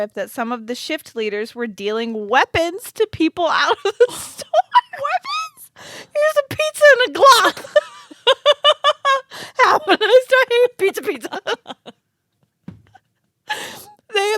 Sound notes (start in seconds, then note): 7.2 girls laughing; 9.6 laughing and mumbling